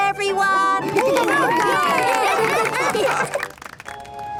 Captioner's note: cheering, applause